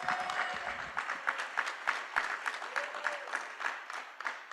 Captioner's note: applause